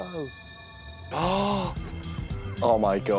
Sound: gasp

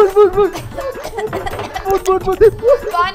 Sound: coughing

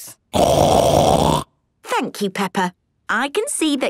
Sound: loud snort

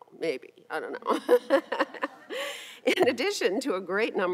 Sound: laughing

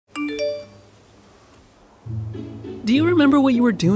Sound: notification bell dings

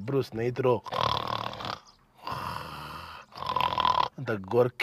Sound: snores

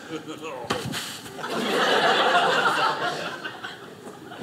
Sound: audience laughing

